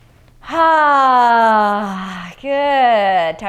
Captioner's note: loud sighing